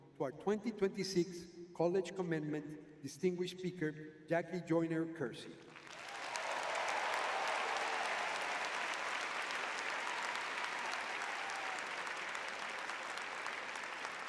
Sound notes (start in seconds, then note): 5.9 audience cheering